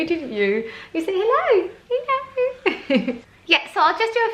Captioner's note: chuckles